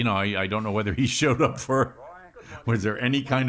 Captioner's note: laughs